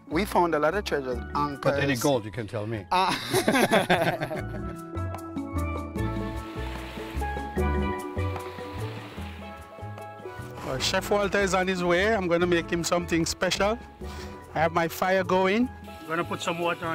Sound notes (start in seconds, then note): 3.0 laughter; 6.1 sound of waves